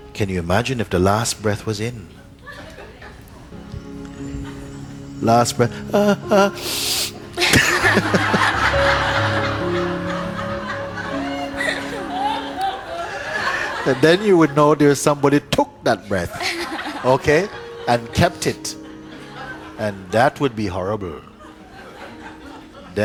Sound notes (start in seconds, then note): 2.4 laughter; 6.3 inhales; 7.4 laughter